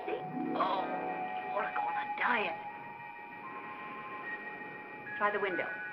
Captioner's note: groans